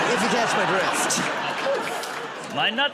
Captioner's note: laughter